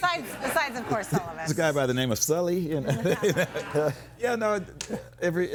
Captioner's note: laughs